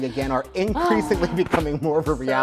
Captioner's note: laughs; sighs